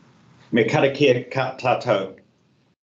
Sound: speaking in te reo Māori

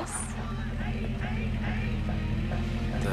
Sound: truck pulls up

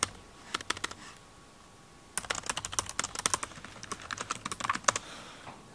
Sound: collection of keyboard typing sounds

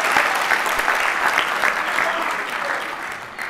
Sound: applause

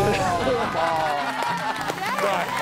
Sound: laughter

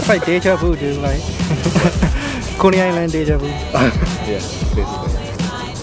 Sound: speaks foreign language

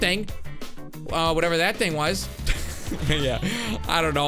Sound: laughs

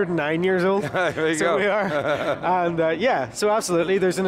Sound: laughing

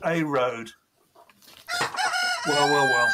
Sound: rooster crowing

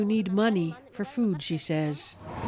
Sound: speaking alternate language

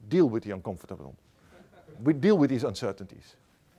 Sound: laughter

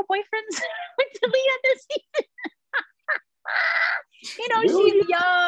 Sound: laughs

